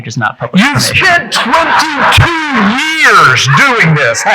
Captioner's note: audience laughing